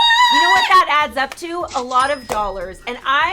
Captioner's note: cashier sounds